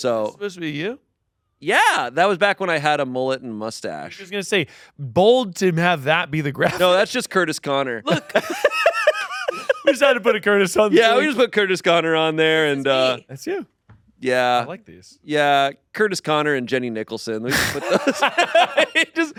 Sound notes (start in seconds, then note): 8.0 laughing; 17.5 laughing